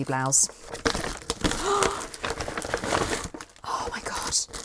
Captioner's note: rustling